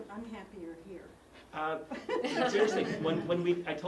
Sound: laugh

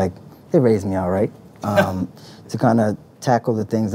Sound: laughs

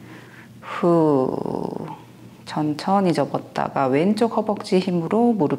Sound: breathe out

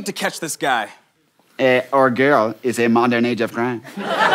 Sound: laughter

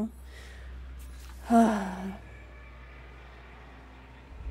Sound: big Sigh

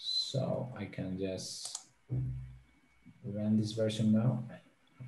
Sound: mouse clicking

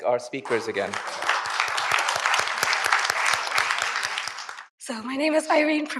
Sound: audience applauds

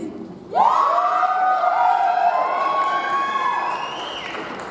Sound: audience cheers

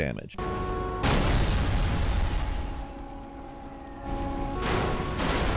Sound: car horns blaring; explosion blasting; car smashing

